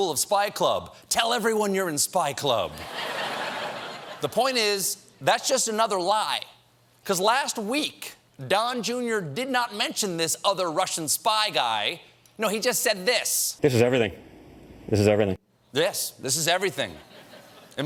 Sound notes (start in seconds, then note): 2.7 laughter